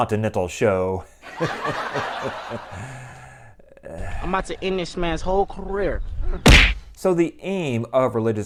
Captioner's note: laughter